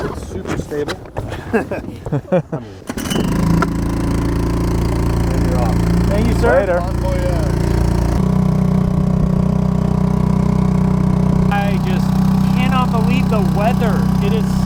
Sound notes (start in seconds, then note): 3.5 boat engine starts; 8.9 boat engine running